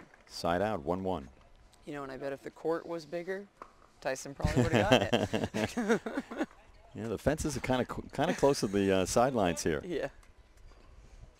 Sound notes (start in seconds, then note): 6.0 laughter